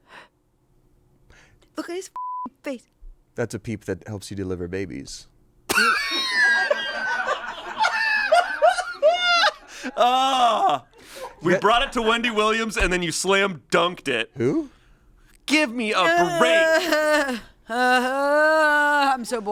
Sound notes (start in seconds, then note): 2.2 beep; 5.7 laughs; 16.0 groans